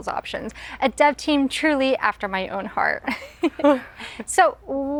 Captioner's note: laughs